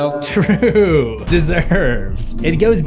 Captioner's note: laughing